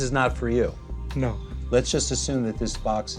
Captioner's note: none